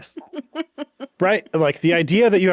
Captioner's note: chuckles; chuckling